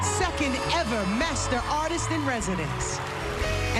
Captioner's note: cheering